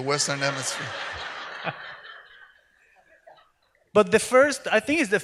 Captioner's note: audience laughs